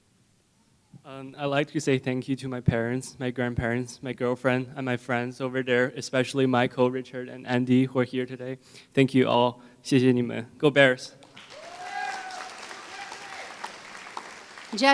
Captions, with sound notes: I'd like to say thank you to my parents, my grandparents, my girlfriend, and my friends over there, especially Michael, Richard, and Andy who are here today. Thank you all, [Foreign Language], Go Bears!